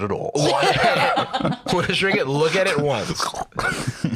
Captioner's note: laughs; both laugh